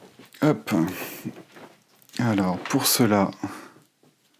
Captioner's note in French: raclement de gorge